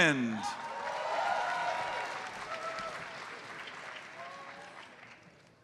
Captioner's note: audience cheers and applauds